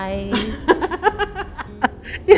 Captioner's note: laughs